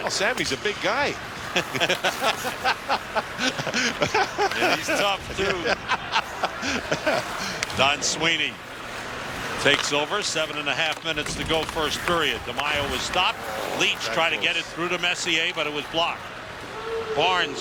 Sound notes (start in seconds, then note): 7.1 laughter